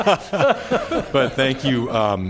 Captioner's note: laughter